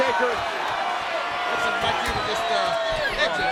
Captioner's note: crowd chattering